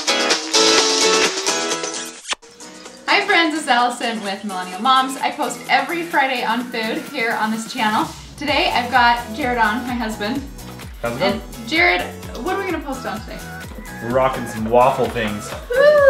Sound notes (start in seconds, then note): 2.2 kissing noise